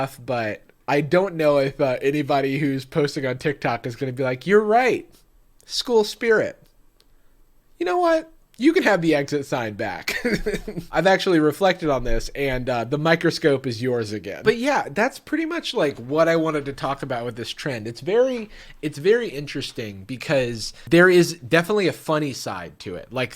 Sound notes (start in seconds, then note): 10.1 laughs